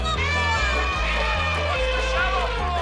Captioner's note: elephant trumpeting